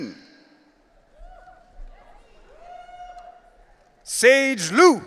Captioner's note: audience cheering